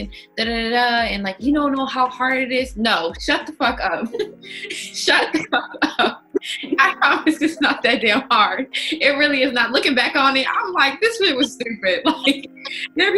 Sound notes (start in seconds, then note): 4.0 all laughing